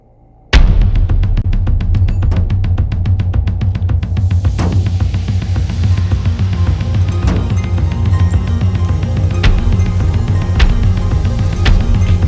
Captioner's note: fast drumming; slapping/pulsating sounds